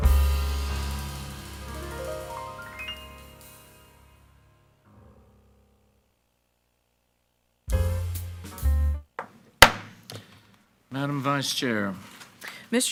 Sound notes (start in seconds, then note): 7.6 soft jazz music; 9.6 gavel bangs